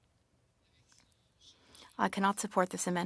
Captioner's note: speaking French